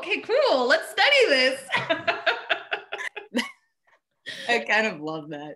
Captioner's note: laughing